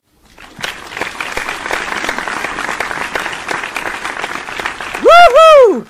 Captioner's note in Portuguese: Palmas